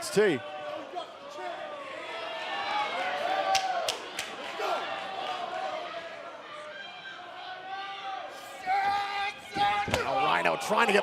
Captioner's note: crowd cheering